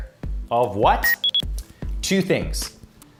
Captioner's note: electronic beep